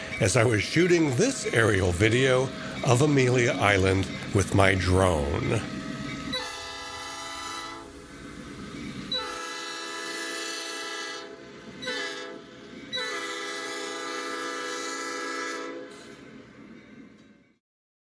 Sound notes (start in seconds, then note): 6.4 train horn